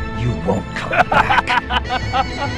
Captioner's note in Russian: Смеётся